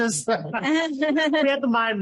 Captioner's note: laughter